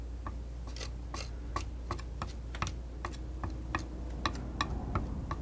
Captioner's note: tapping